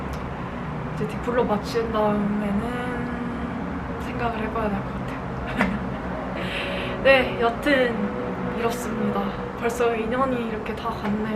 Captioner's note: laughs haha